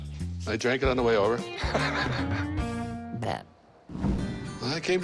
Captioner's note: laugh